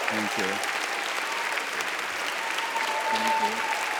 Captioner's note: audience applauds